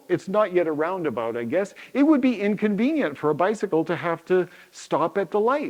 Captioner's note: none